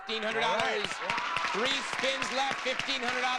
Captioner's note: audience applauding